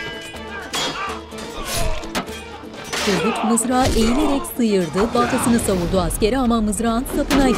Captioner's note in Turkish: Dövüş sesleri; Dövüş sesleri